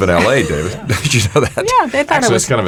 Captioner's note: laughs